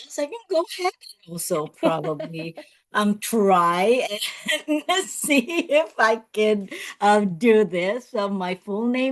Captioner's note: laughs